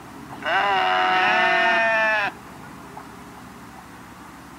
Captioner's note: sheep bleat